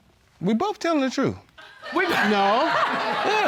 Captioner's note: laughter